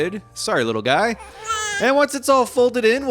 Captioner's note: child cries